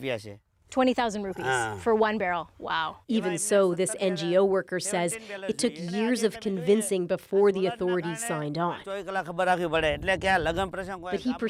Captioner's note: speaking alternate language